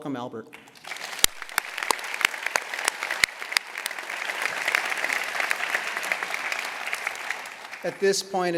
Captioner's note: applause